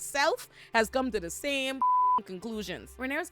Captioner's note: beep